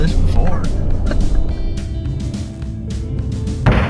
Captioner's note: chuckling